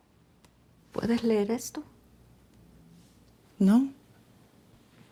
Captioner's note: widow speaks Spanish